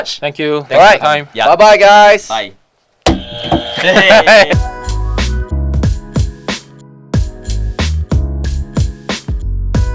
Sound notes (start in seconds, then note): 3.1 buzz